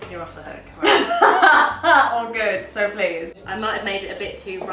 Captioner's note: laughs